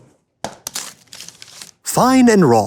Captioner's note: wrapper tears